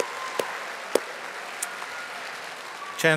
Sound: audience applauding

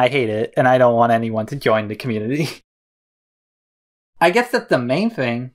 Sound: laughs

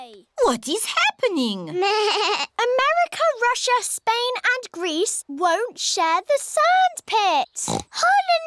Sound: bleats; oinks

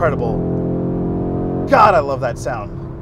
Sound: engine revving

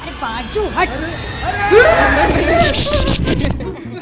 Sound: screaming

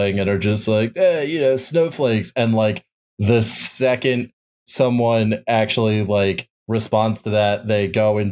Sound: chud voice

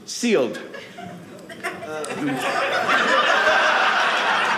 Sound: audience laughing

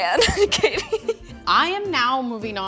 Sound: laughing

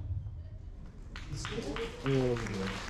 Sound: applause

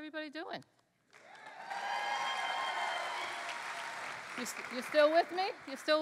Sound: cheering

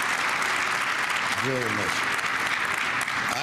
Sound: applause

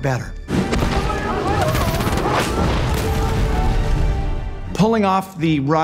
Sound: explosions blasting; soldiers shouting

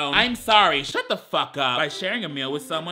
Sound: none

